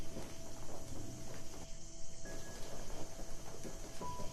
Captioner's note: none